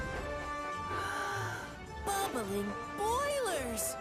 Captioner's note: gasps